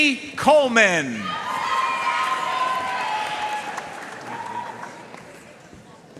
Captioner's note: audience cheering and applauding